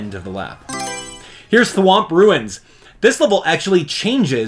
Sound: Mario Selection Sound

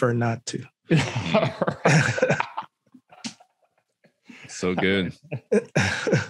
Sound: all laughing

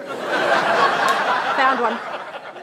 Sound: laughter

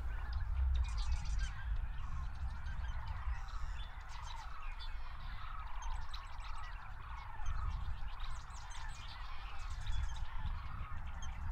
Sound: lively birds and nature sounds continue

